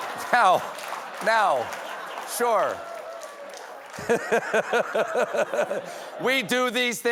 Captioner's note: laughter